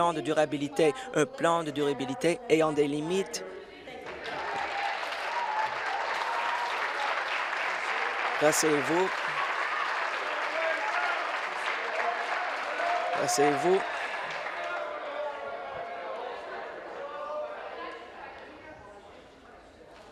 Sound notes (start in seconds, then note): 9.0 applause